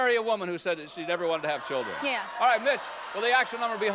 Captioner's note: audience yells